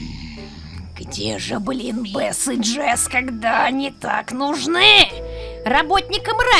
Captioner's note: growls